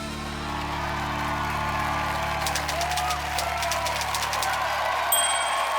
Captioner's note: cheering and applause